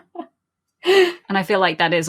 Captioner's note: laughs